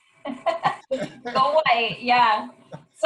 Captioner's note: laughter